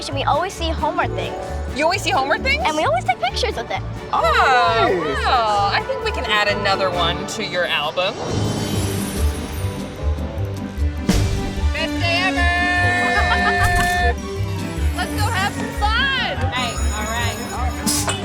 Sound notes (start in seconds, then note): 8.5 lively music; 13.5 camera clicks; 18.0 cannons whooshing; 18.0 cans clinking